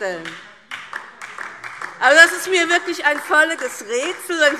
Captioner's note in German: Beifall DIE LINKE und SPD